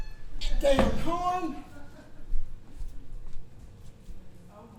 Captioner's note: horn